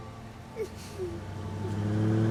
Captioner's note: Solloza